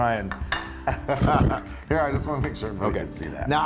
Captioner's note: laugh